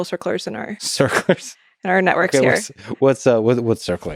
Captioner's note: chuckles